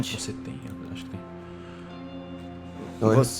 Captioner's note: whispering